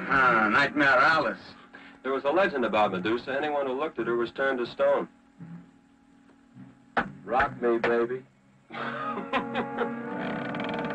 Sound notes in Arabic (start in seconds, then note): 8.7 يضحك; 10.2 صوت طقطقة من باب مفتوح تم سماعها